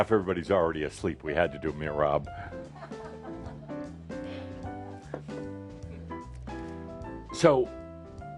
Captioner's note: a few chuckles